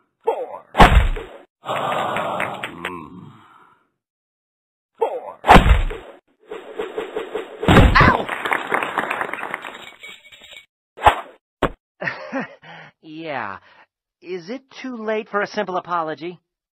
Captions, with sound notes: Fore! Fore! Ow! (applause) (laughing) Yeah. Is it too late for a simple apology?